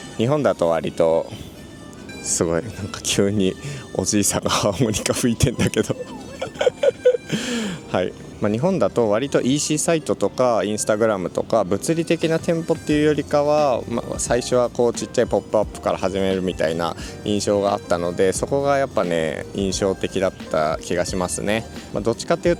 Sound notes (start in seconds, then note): 5.4 laughs